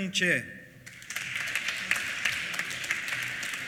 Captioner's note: applause